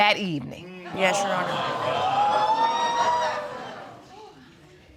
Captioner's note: audience gasps